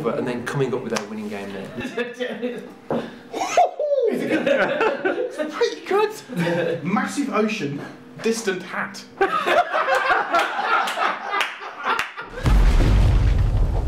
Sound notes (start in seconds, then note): 3.0 excited noise; 9.1 laughter